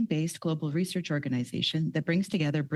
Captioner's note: speaking French